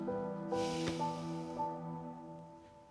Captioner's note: sighs